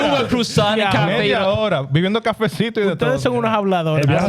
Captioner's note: speaking In Foreign Language